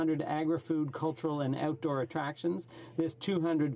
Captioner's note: speaking French